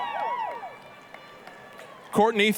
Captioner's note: applause, cheering